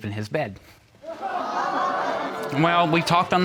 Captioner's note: audience gasps